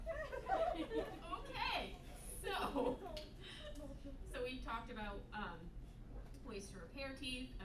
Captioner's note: yet more "teeth" chanting